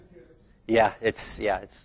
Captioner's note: man speaking distantly